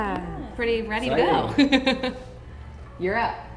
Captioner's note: laughs